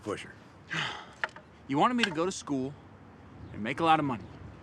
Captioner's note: sighs